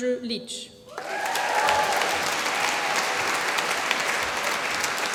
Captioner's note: applause